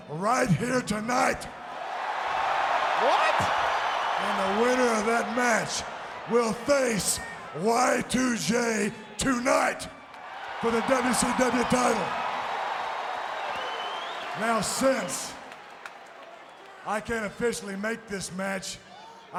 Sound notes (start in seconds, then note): 1.7 crowd cheering; 12.1 crowd cheering